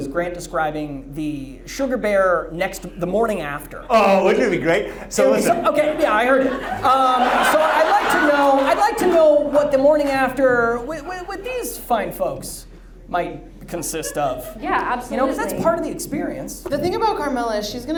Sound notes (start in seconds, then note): 7.5 audience laughs